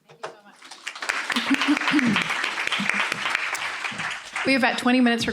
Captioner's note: applause